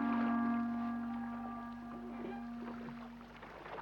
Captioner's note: water splashes